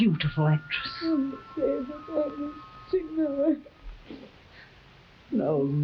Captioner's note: crying